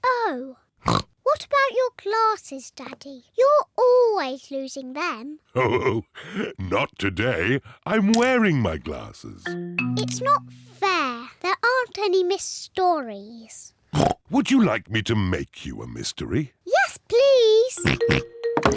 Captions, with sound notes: Oh. What about your glasses, Daddy? You're always losing them. (CHUCKLES) Not today. I'm wearing my glasses. It's not fair. There aren't any missed stories. Would you like me to make you a mystery? Yes, please!